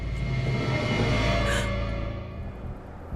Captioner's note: gasps